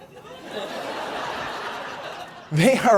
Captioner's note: audience laughs